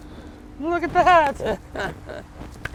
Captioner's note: laughs